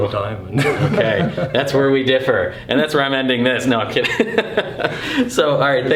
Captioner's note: laughter